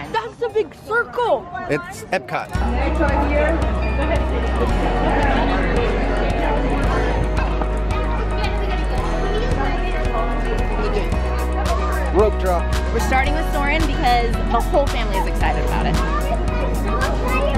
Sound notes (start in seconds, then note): 3.6 excited chatter and lively music